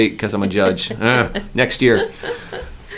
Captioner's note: groans